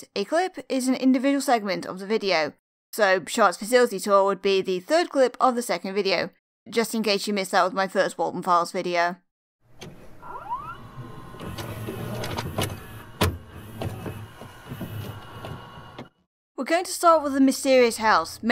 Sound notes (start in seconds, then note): 9.7 VHS noises